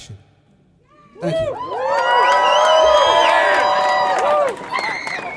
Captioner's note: applause